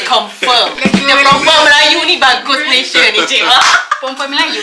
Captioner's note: laugh